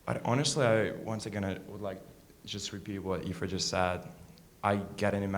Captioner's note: none